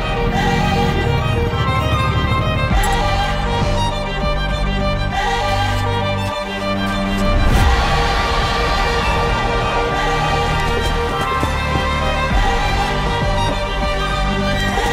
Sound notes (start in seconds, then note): 0.1 four-wheeler revving; 10.6 hooves beating